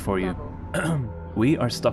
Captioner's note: ahem